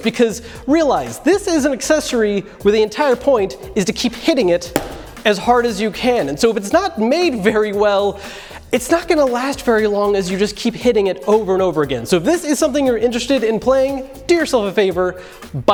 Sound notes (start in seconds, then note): 4.7 bang